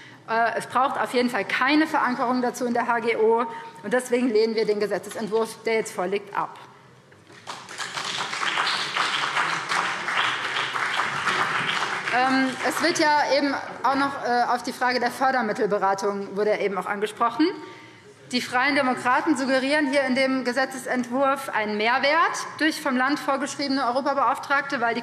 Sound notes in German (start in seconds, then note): 7.3 Beifall BÜNDNIS 90/DIE GRÜNEN und CDU